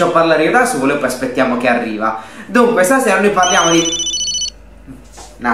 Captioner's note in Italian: squillo di telefono